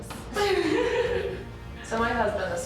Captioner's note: laughing